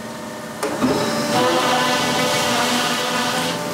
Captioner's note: loud whirring